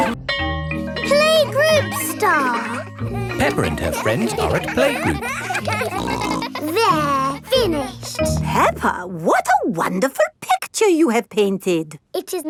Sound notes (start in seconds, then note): 5.7 kids giggling